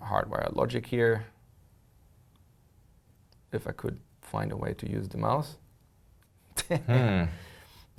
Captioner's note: laugh